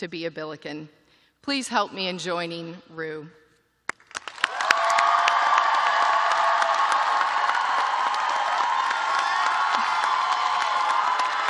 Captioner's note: cheers and applause